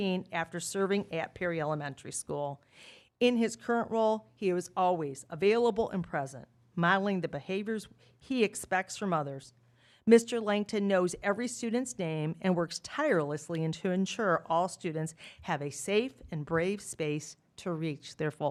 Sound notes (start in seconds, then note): none